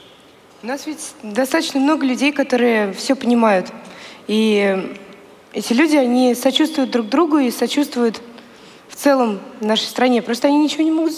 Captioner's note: foreign Language